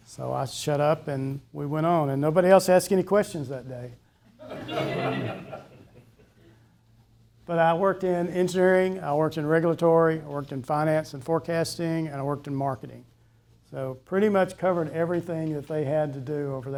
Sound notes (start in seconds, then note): 4.4 people laughing